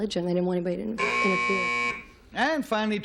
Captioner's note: buzzer